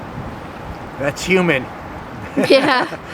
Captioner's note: laughs